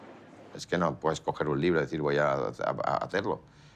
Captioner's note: in Spanish